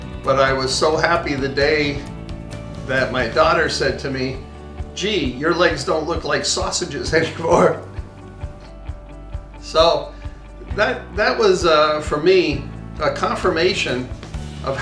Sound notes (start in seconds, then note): 7.1 laughs